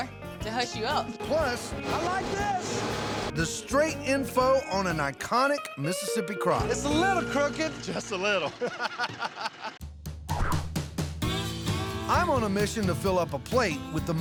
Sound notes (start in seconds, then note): 8.2 laughter